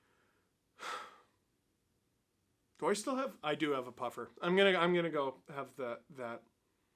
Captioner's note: breath